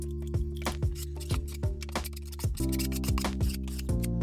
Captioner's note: tool scraping